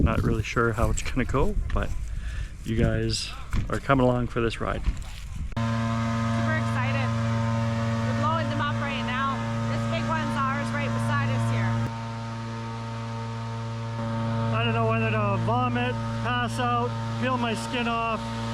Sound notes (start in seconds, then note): none